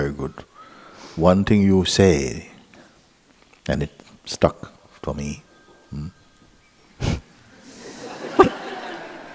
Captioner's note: phone rings; laughter